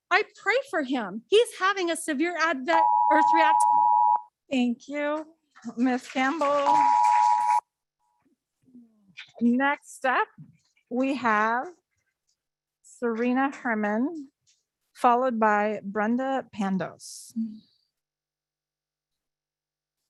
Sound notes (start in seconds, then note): 2.7 timer beeping; 6.4 audience clapping